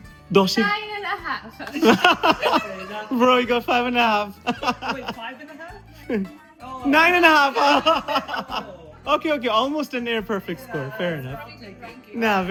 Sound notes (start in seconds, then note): 1.0 sound ok laugh